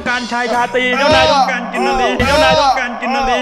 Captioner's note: pat